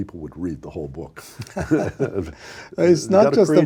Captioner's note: laughing